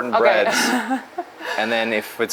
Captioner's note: chuckles